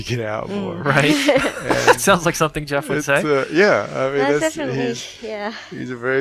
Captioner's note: laughing